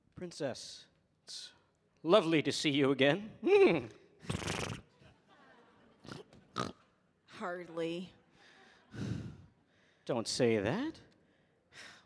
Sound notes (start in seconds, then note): 4.3 neighs; 5.1 audience laughing